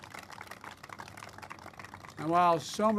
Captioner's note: applause